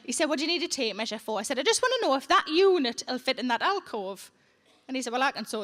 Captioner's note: none